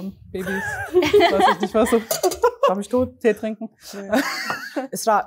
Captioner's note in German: Gelächter